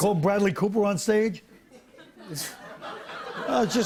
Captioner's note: light laughter